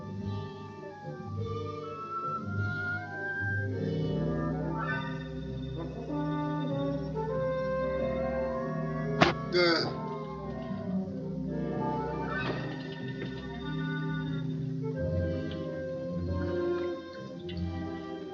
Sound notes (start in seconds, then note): 9.2 thud; 9.2 groans